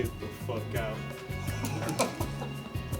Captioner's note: laughter